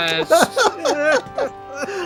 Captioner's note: chuckles